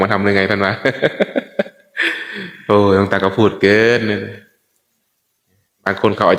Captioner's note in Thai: เสียงหัวเราะ